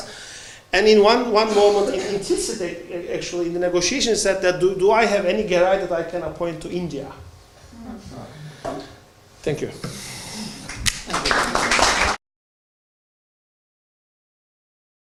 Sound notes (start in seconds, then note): 10.6 applause